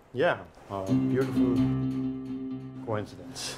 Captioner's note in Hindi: none